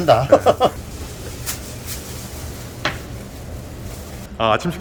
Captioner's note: stepping on noodles